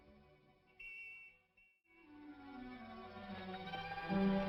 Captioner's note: police whistle blowing